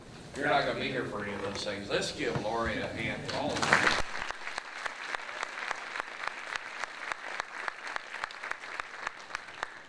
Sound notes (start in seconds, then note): 3.3 drowned out by applause